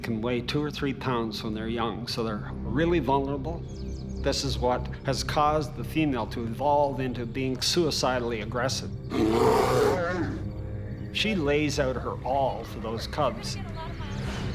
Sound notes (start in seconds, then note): 9.0 bear growling